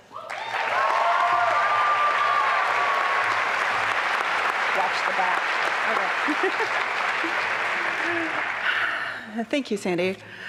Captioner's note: applause and cheering